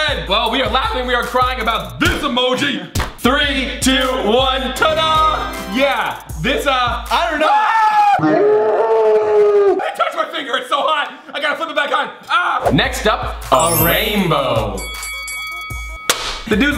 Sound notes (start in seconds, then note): 7.4 screaming; 13.5 bell dinging